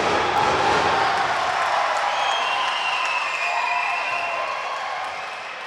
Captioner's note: audience applauding and cheering